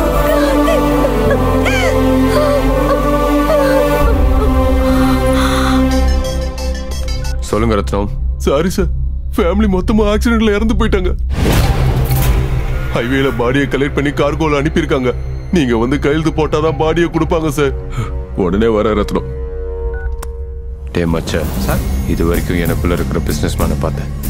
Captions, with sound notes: Karthik. (Crying) (Phone rings) Tell me, Rathnam. - Sorry, sir. Your entire family died in an accident. What? They have collected the corpses from the highway and sent it over cargo. We can collect the bodies only if you sign the consignment form. I will come immediately, Rathnam. Macha, so far you've only seen the businessman in me. - Sir.